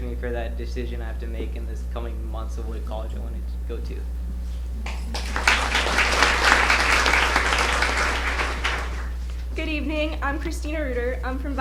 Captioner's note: applause